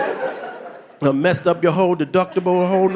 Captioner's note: audience laughing